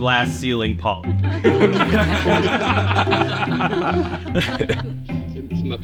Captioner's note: laughter